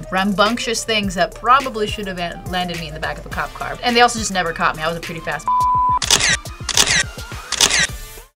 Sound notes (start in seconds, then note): 7.4 camera shutter clicks